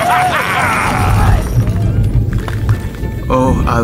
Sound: distant thunder

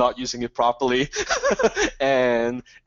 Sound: Dan laughing

